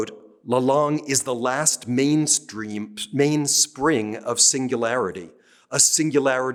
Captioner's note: speaking french